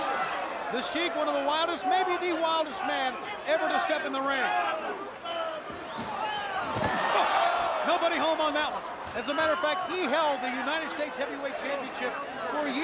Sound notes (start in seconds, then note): 5.1 crowd cheering